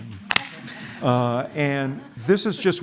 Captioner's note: laughter